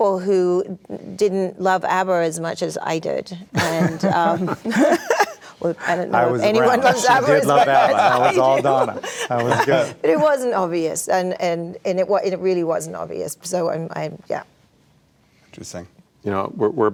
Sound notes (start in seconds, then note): 3.6 group laughing